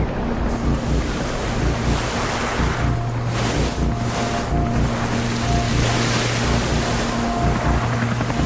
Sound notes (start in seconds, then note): 0.0 water splashing